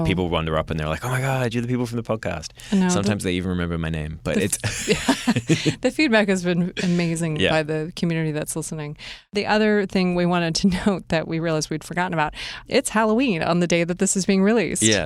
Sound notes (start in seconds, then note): 4.4 chuckling